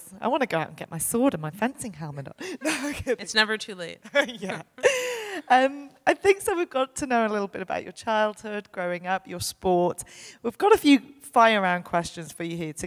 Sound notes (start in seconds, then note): 4.0 laughing